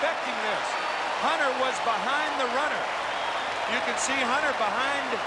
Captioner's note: cheering and Applause